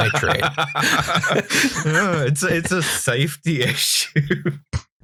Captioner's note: laughter